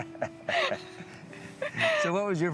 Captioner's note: laughing